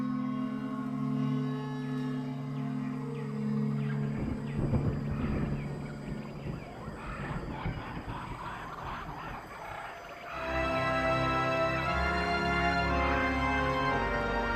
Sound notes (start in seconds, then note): 6.9 sound of forest at night; 10.7 dramatic music